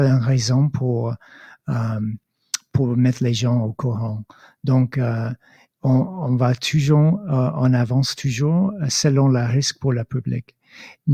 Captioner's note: speaking in French